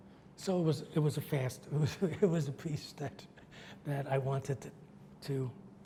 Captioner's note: laughs